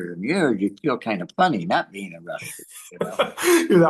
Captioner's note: laughs